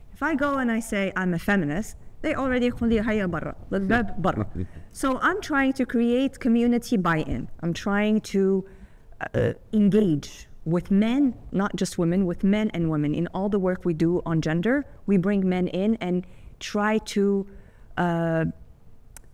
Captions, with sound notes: If I go and I say I'm a feminist, they already, (speaking foreign language) So I'm trying to create community buy-in. I'm trying to engage with men, not just women, with men and women. In all the work we do on gender, we bring men in and try to bring men and boys